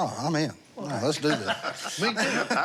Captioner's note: laughter